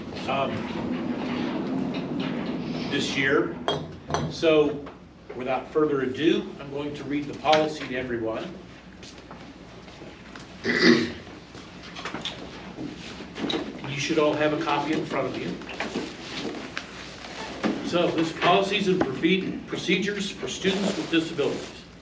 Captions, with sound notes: um... this year. So, without further ado, I'm going to read the policy to everyone. [clears throat] You should all have a copy in front of you. So this is "Policies and Procedures for Students with Disabilities,